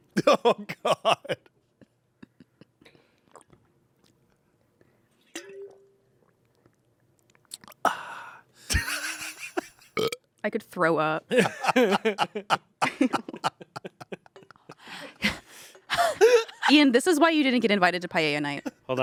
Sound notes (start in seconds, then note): 0.2 laughs; 7.8 sighs; 8.7 laughs; 9.9 burps; 11.4 everyone laughs